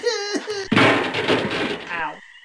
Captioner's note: trashcans banging